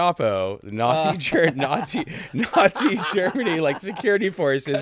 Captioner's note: both laughing